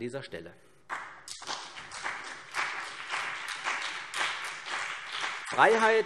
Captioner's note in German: Beifall CDU und BÜNDNIS 90/DIE GRÜNEN